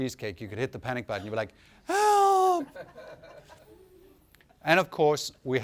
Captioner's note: screams